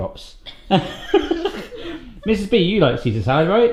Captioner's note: laughter